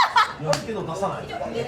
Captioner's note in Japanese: バシッ1